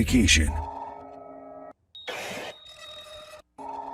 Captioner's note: mechanical whirring